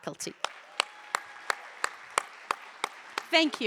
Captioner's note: clapping